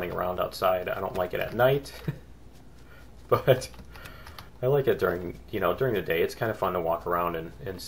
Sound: laughs

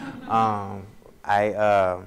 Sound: audience laughs; laughs

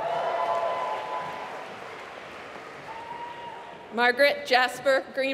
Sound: applause

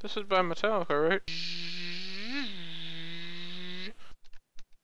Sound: imitating car engine

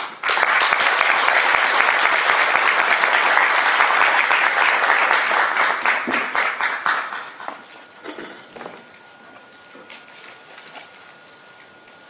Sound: 拍手

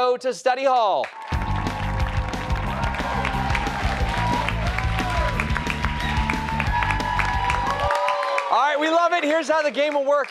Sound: cheers and applause

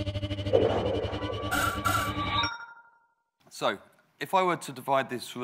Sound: electronic sounds

